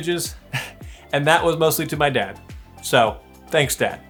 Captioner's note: chuckles